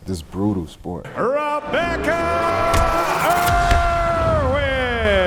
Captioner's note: film reel rewinding